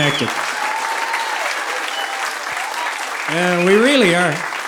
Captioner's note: audience applauding